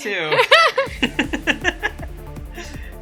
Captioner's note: laugh